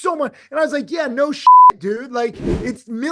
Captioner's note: beep